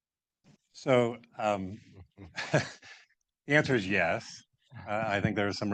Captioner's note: chuckles